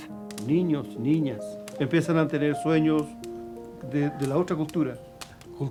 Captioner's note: speaking in foreign language